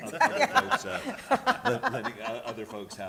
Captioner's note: laughter